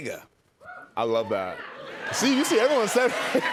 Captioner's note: cheers and applause